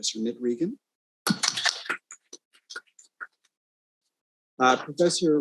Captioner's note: audience applauding